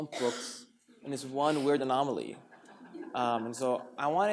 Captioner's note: audience laughs